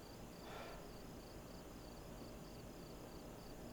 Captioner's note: Alma sighs